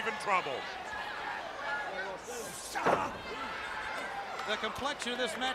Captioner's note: crowd chatter